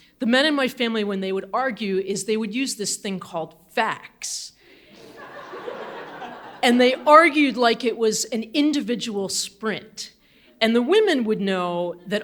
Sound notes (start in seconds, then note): 4.9 audience laughing